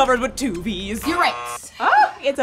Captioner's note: button buzzes